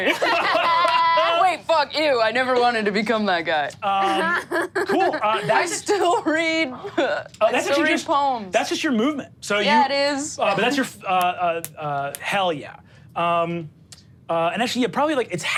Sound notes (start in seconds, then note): 0.0 audience laughs; 4.1 laughs